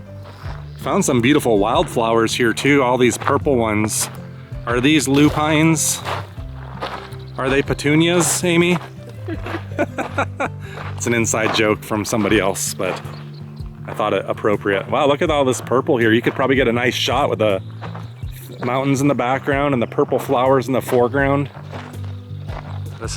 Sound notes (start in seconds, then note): 9.2 laughter